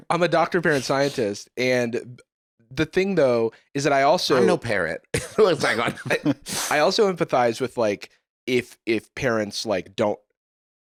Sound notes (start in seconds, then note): 5.7 laughs